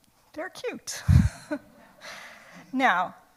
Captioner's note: laughs